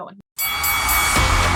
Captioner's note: bell dings; upbeat music; audience cheering